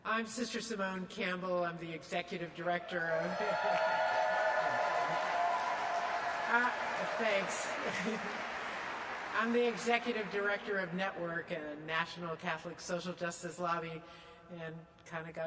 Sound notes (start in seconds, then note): 8.8 audience continues to cheer and clap